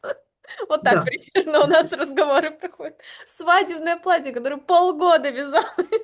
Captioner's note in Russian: смех